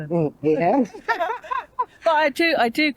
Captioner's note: laughter